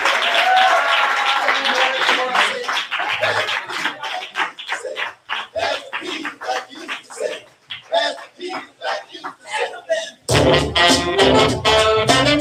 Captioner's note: applause